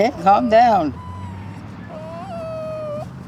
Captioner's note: dog whimpers